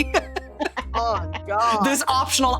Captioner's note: laughing